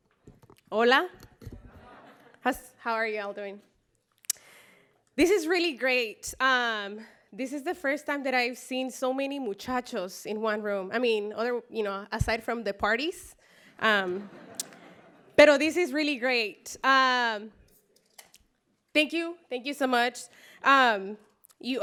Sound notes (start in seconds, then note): 14.0 laughter